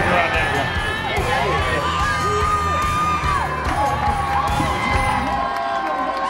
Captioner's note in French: des étudiants applaudissent